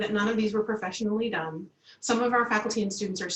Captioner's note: Arabic